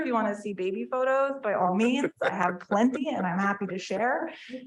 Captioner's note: board members chuckling